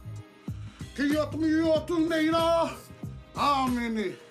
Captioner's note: recites karakia